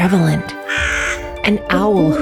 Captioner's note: crows